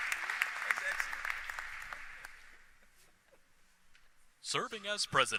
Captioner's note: applause